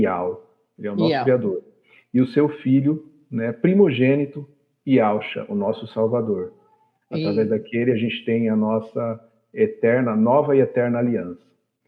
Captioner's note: Speaking Hebrew